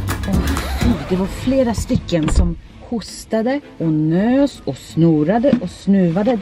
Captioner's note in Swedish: record scratch